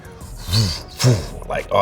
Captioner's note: imitates air whooshing